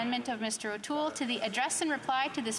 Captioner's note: speaking French